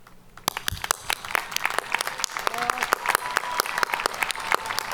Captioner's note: audience cheering